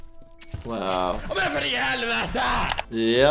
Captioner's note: roaring